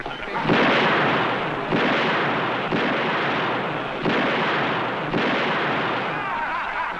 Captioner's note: gun shots